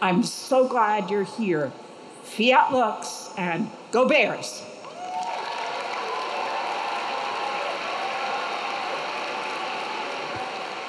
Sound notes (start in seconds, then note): 4.9 audience cheering; 4.9 audience clapping